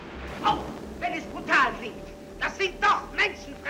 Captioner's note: speaking in German